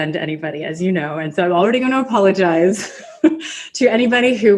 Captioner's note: laughs